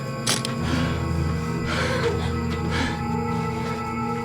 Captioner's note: camera clicking